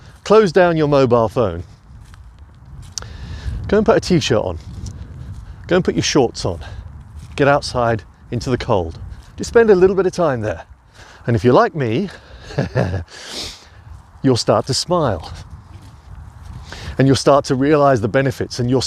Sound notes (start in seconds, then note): 12.4 laughs